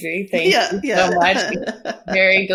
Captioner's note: chuckles